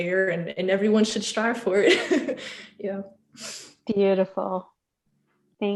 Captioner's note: laugh